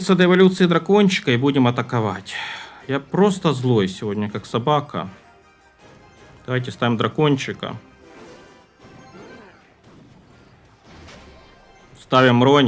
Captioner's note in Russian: вздыхает